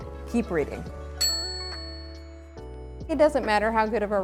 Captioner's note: bell ringing